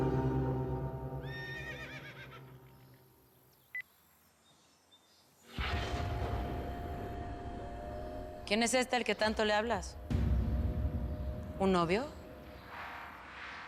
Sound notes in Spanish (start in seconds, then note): 1.2 Relincho